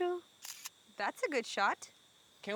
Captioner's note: shutter snapping